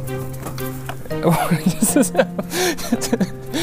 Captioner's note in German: lacht